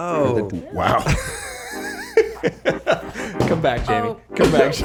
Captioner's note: all laughing